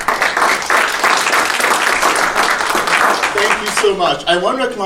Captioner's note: attendees applauding